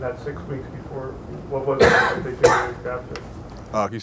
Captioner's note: coughs